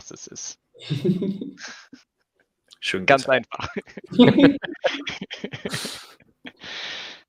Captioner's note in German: Lachen